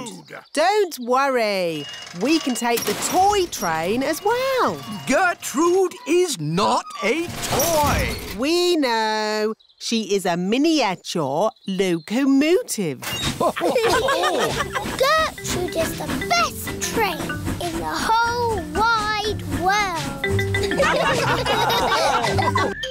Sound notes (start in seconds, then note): 13.3 laughter; 20.7 laughter